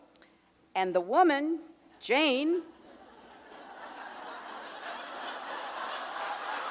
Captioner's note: audience laughing and cheering